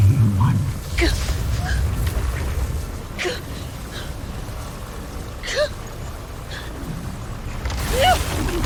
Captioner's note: powerful whoosh-crackle; grunting; powerful blast-crackle; grunts